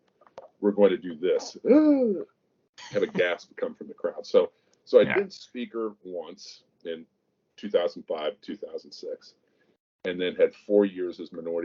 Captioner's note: gasps